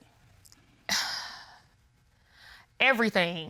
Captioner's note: sighs